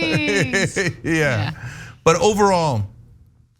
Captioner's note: laugh